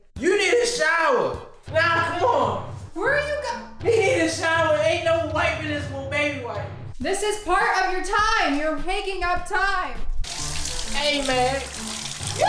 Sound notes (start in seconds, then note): 10.2 water running